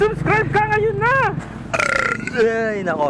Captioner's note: burps in front of camera